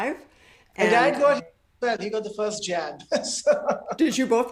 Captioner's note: laughs